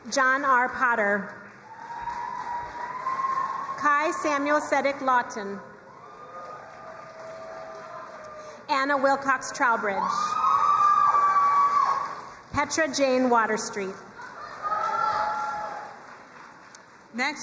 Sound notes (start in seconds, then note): 1.5 crowd cheering and applauding; 10.0 crowd cheering and applauding; 14.0 crowd cheering and applauding